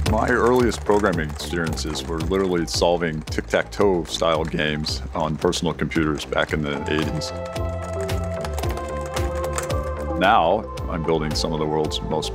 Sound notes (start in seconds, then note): 7.9 keyboard keys clacking